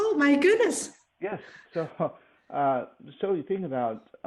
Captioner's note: laughs